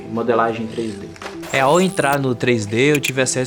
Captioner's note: electric crackling